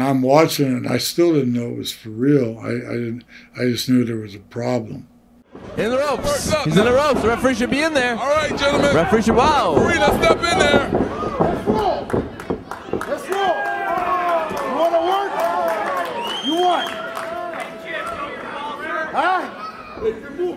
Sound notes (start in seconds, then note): 14.5 crowd cheering